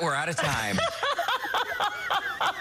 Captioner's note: laughter